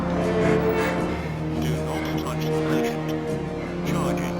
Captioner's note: robotic Voice